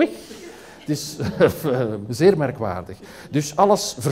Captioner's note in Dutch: lacht